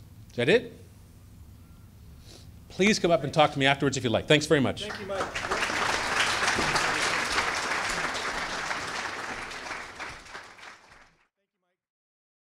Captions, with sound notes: Is that it? Please come up and talk to me afterwards if you like. Thanks very much. - [Voiceover] Thank you, Mike. (applause)